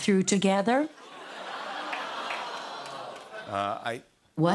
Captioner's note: audience awws